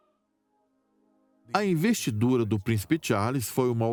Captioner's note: voiceover